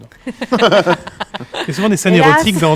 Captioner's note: laughs